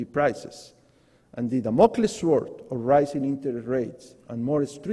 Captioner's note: foreign words